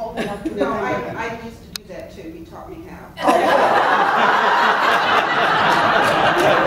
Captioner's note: laughs